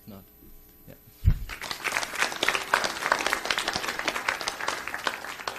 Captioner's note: audience applauds